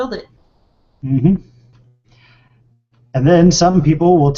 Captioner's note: vocalizes agreement